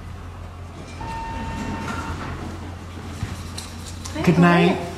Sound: elevator dinging

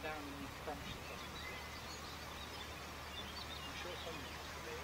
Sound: sound of running water

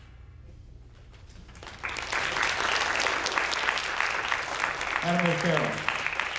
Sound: audience applauding

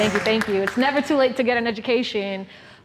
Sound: clapping

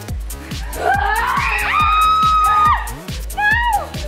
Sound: girls screaming

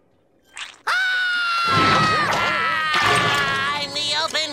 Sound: screaming

